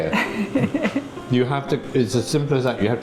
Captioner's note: laughing